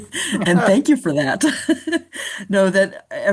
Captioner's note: laughs